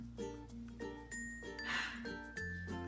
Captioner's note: sighs